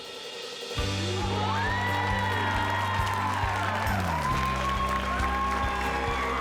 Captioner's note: cheering